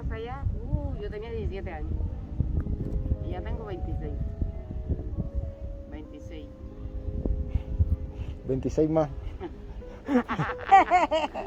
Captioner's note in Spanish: risas